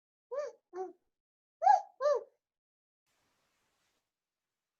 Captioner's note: childlike squeaking